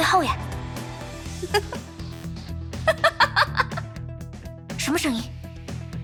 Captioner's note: giggles